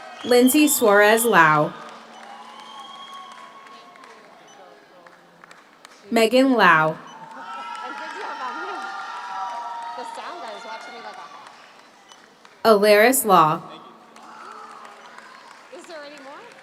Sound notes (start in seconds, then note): 0.0 audience applauds; 0.0 audience cheers; 2.4 audience applauds; 2.4 audience cheers; 7.0 audience applauds; 7.8 audience cheers; 13.6 audience applauds